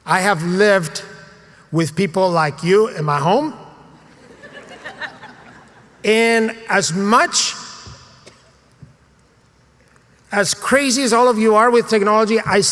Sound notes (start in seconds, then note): 4.3 laugh